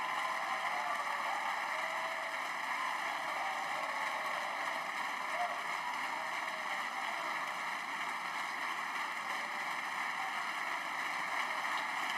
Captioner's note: applause